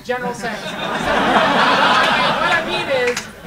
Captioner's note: audience laughing